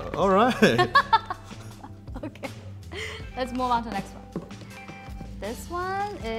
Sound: laughs

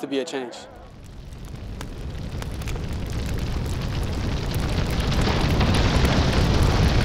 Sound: fire burning and crackling noises

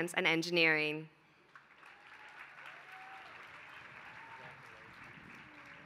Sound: applause

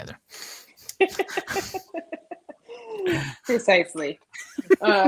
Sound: laughing

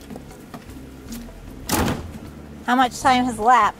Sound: footsteps

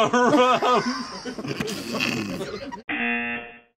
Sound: laughs; snickers; buzzer

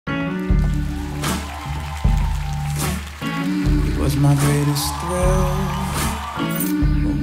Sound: applause, cheers

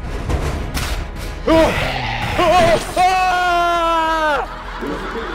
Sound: screams

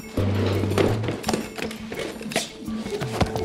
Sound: chair scraping

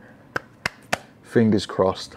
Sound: claps

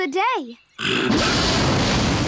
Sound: roaring

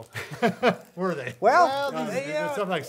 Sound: laughs

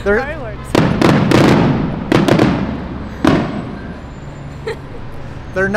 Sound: fireworks exploding

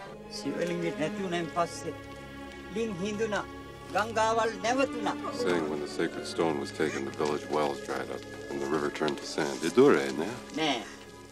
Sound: sinhala Dialogues

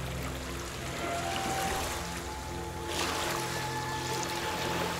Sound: water ripples

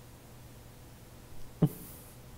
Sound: laugh

